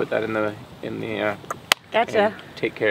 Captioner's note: clicks tongue